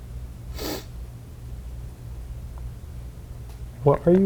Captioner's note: sniffs